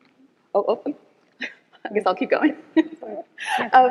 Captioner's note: chuckles; laughs